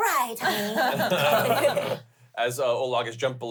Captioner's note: groans